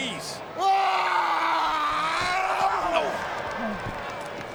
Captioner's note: Roman screams